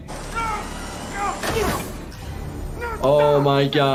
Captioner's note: person screaming